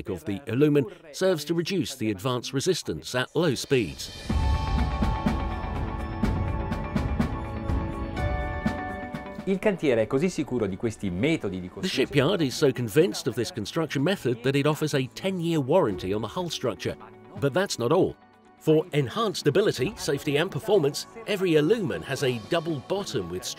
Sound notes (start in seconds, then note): 3.7 cinematic electronic music; 9.5 speaking in Italian